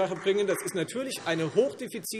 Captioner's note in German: Beifall Freie Demokraten